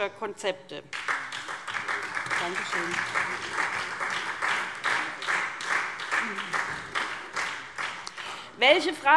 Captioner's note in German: Beifall SPD